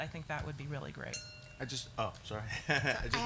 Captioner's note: glass clacking; laughs